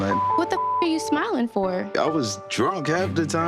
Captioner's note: beep